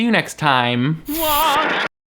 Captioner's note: static crackles